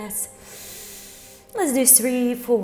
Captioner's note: inhales